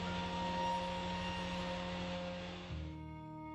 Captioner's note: CNC Router cutting